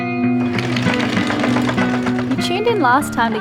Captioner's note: boat motor